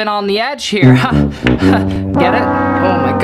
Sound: tuba music; nervous laughter

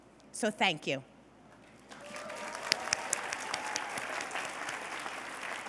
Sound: cheers and applause

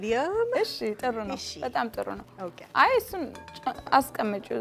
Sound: speaking Amharic

